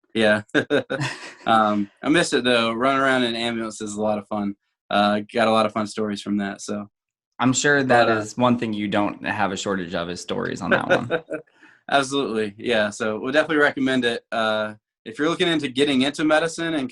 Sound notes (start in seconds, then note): 0.4 chuckles; 10.5 laughing